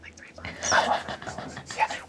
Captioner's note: laughs